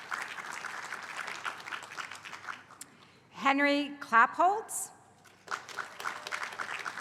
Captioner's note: applause